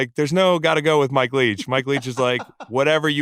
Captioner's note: laughs